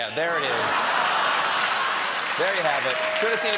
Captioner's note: laughter; applause